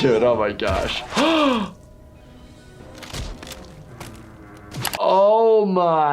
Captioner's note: gasping